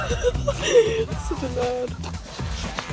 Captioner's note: laughs